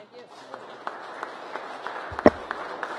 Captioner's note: applause